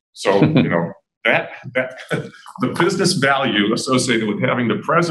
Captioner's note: laughter